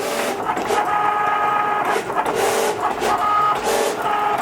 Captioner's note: machine whirring